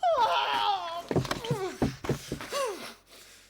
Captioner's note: groaning